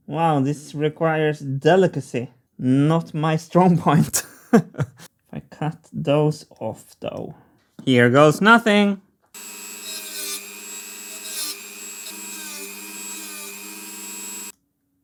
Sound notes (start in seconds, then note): 4.1 laughs; 9.3 dremel whirring